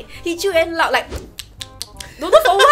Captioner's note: mimicks chewing sound